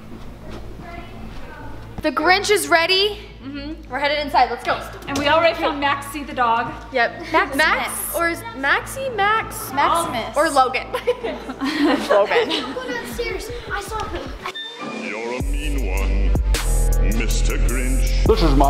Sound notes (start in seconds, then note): 10.8 laughs